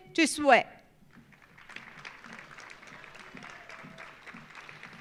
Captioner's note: audience applauding